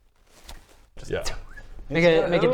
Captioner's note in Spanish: thrr